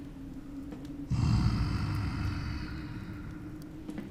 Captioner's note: moans